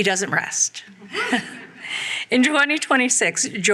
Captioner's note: laughs